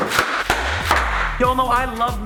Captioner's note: box slamming; bubble wrap popping; mellow music begins